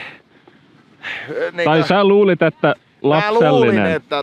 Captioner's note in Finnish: hengähtää